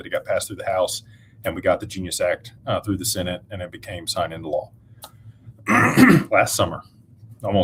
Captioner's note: clears throat